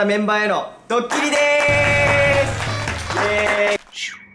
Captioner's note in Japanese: パンパンパン！：めちゃめちゃいい音の拍手ふたたび